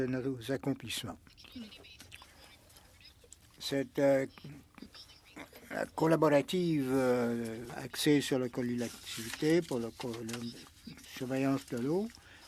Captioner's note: speaking French